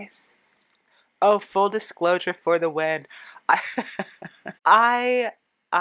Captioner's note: laughing